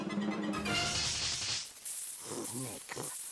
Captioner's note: hissing